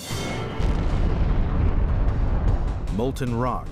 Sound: boom

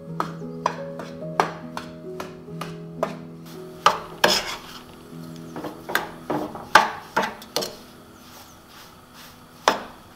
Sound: stirring; dishes clink

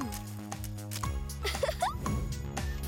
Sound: upbeats playing; chuckling

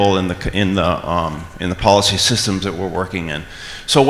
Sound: none

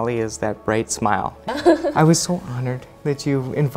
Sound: laughs

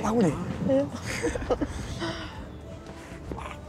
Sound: laughing

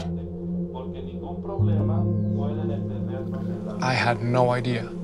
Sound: laughs; people speaking in foreign language

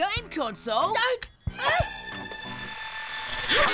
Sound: device beeps; device whirs

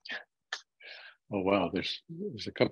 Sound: chuckles

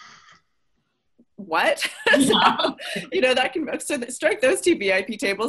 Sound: everyone laughs

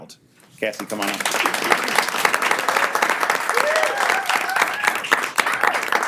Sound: all applaud and cheer

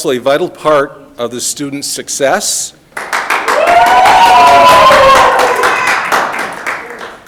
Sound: audience applauding

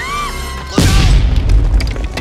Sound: explosion

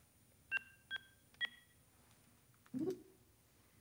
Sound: keypad beeps

